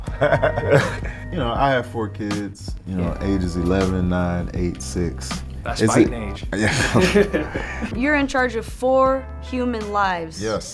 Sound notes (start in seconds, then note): 0.1 Spice laughing; 6.5 laughing